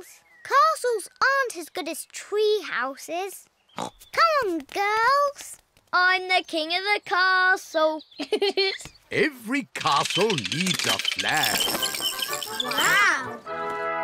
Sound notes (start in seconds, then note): 3.3 snorts; 8.2 giggles